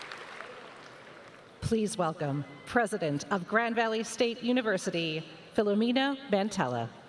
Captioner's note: applause